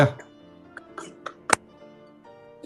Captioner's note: quiet cackling